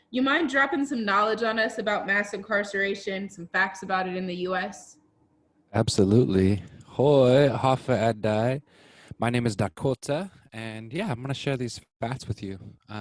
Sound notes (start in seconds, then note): 6.8 speaking in foreign language